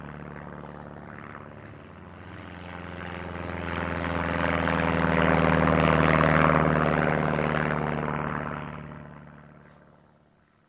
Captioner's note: sound of an airplane landing